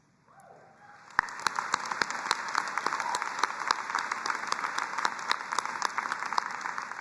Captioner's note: both applauding